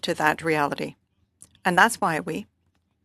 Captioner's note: speaking French